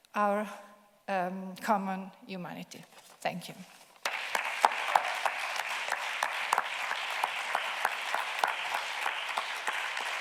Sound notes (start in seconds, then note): 4.0 audience clapping